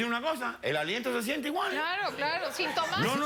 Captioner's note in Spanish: Risas